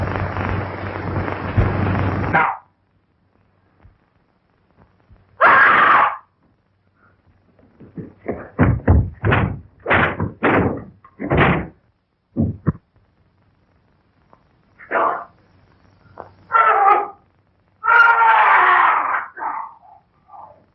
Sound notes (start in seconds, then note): 4.6 pounding